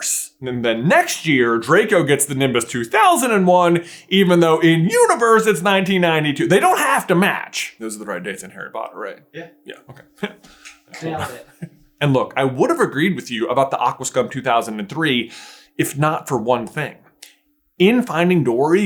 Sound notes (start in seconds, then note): 9.8 laughs